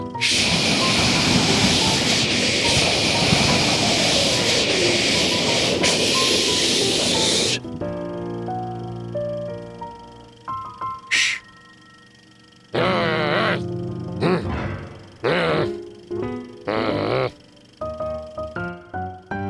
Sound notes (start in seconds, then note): 0.2 loud inhale; 0.4 windy blowing; 12.7 growls; 15.2 grunts; 16.6 low grumbling; 17.8 vaudeville music